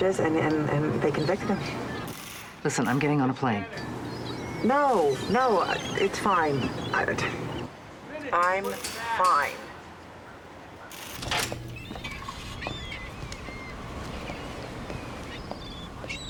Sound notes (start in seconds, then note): 11.7 sea gulls cry